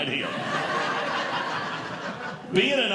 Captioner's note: audience Laughing